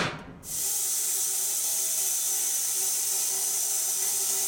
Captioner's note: wood clanking; saw whizzing